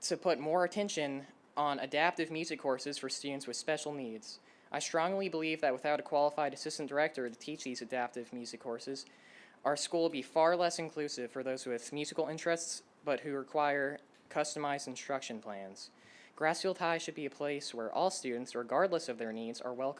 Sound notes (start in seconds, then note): none